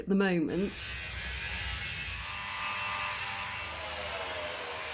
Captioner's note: loud buzz saw